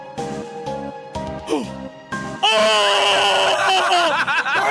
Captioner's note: gasps and yells